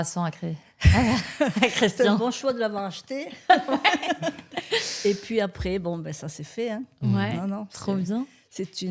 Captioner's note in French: rires